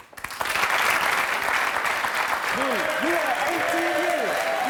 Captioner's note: clapping